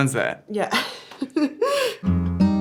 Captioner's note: laughs; gentle guitar music